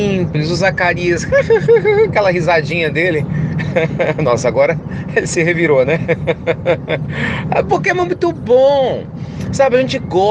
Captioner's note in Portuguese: Risos